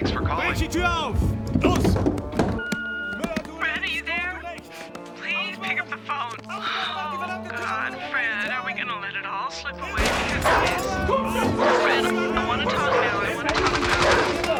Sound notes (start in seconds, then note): 1.7 speaking german; 4.7 on phone; 10.0 gunshot; 12.1 speaking german